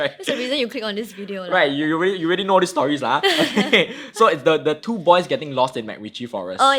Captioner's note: laughing